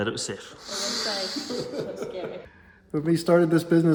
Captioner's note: laughs